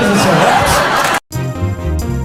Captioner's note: cut off applause